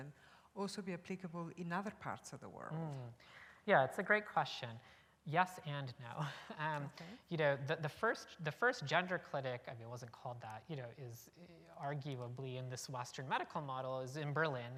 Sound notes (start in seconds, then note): 6.2 chuckle